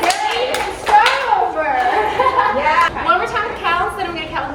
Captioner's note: laughs